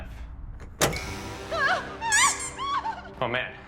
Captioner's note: woman screaming